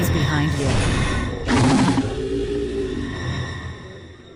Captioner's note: zombie growl